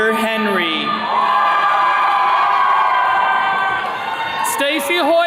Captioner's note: attendees cheering